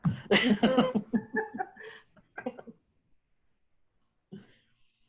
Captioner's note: laughing